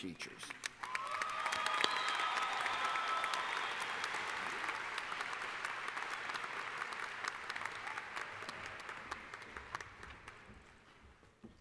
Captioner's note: applause